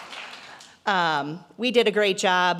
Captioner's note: applause